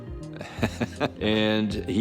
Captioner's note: chuckling